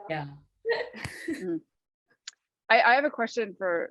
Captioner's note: laughter